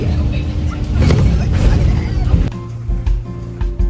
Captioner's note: squeals